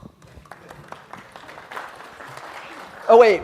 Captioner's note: slight applause